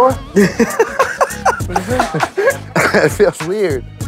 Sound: laughs

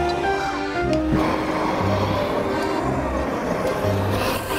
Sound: fire whooshes

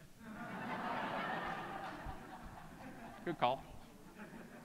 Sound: audience laughing

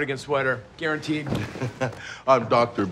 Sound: chuckles

